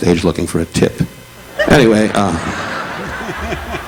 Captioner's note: audience laughing